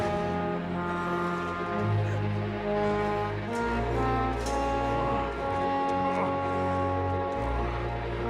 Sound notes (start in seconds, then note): 6.3 groaning